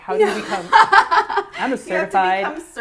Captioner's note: laughs